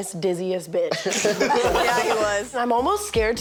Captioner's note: all laughing